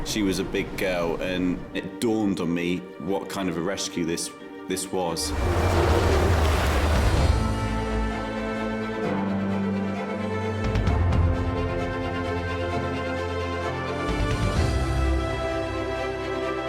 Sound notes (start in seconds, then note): 5.2 waves rustling; 7.8 inspiring soundtrack music